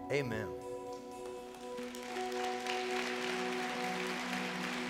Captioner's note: congregation clapping